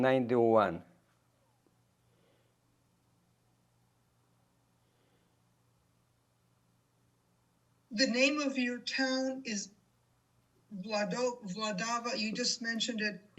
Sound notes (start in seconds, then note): 0.9 pauses 6 seconds